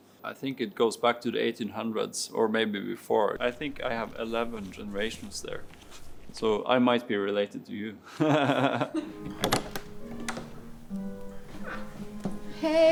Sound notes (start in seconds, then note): 8.2 chuckles; 8.2 chuckling; 9.0 latch clicks